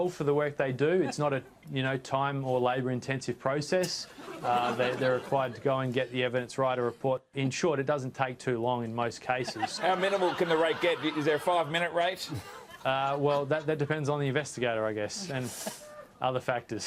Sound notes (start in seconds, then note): 4.2 laughs; 9.5 laughs